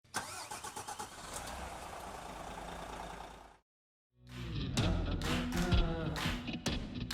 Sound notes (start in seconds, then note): 0.2 vehicle engine roaring; 4.2 upbeat music